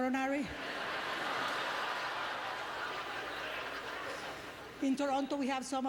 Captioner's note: audience laughter